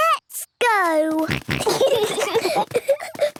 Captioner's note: snorting, giggling